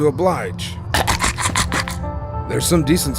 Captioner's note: chuckles